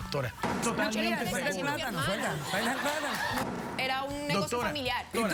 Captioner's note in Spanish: risas